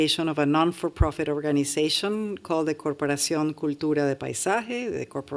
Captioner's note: non-english speech